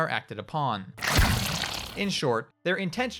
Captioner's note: loud squish